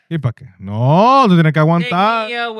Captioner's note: non-english Speech